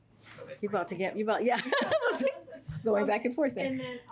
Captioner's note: laughs